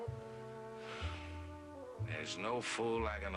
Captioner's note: sighs